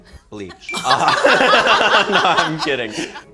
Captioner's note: laughing